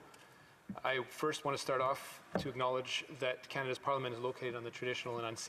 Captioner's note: speaking Indigenous Language